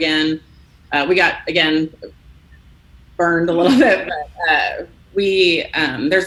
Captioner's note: laughs